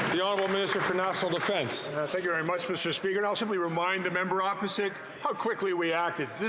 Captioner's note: some Applause